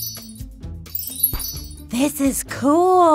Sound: poof; magical chimes; poof

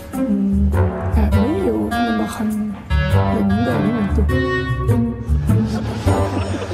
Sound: laughter

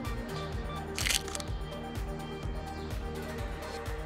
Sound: camera clicking

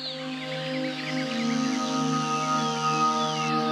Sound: none

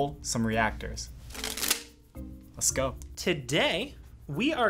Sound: cards snapping

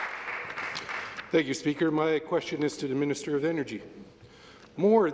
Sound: some Applause

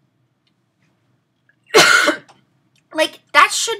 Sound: coughs

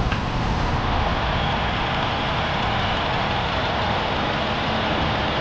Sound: engine rumbling

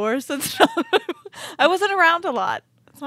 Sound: chuckling

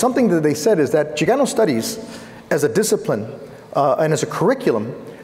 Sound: foreign speaking

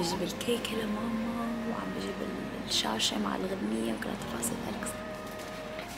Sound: whispering

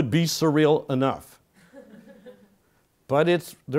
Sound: laugh

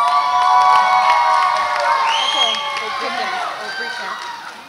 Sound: audience applauds and cheers

